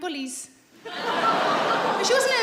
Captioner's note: audience laughs